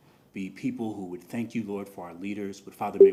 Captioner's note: none